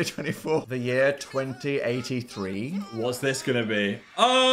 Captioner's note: people shouting